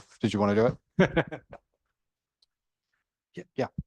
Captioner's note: laughing